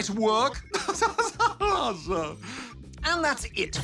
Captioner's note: laughs